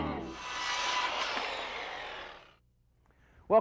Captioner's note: saw grinding